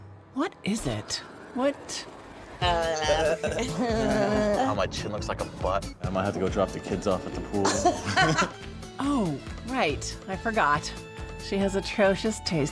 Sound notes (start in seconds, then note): 3.0 giggling